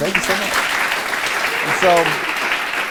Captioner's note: applause